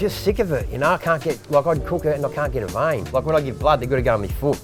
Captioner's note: none